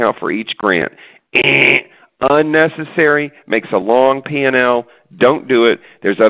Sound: buzz

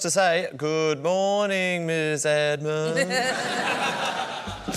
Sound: singsong; chuckles

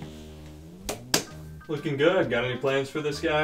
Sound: hand slapping

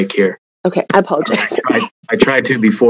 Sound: coughs

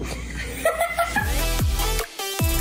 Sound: laughing; upbeat music

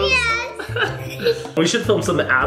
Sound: laughing loudly

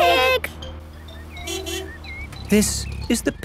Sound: honking

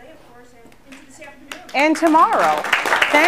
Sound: applause

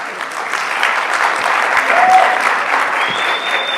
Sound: audience applauds

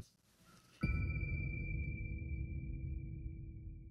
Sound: ding

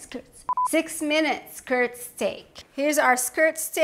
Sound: tone beeps

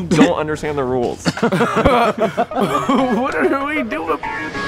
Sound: laugh

